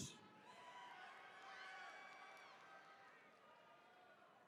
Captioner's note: attendees cheering